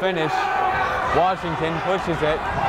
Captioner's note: yelling